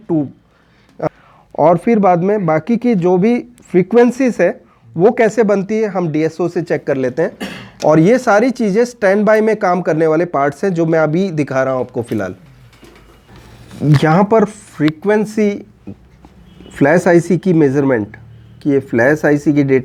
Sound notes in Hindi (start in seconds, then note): 7.4 गला साफ़ करने की आवाज़